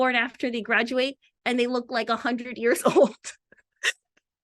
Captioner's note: laughs